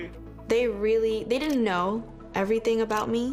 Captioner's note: shutter clicking